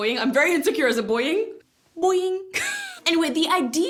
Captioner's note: laughs